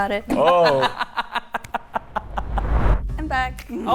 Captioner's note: laughing